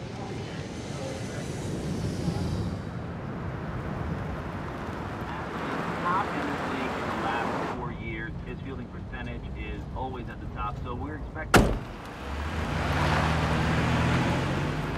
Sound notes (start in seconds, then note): 11.5 car door closes